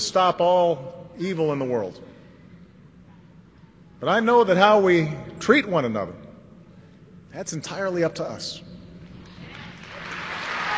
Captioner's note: applause